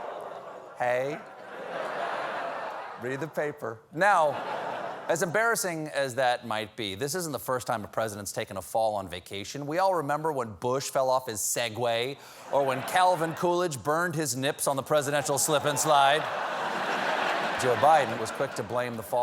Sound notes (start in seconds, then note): 1.6 audience reacts; 1.6 laughter; 4.1 laughter